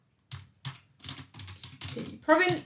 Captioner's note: keyboard clicks